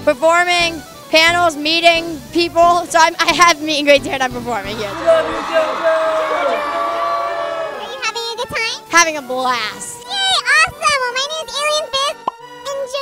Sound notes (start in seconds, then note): 4.8 crowd; 4.9 chanting